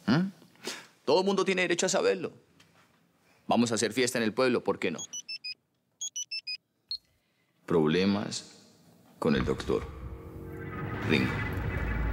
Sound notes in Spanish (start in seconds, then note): 6.0 Suena celular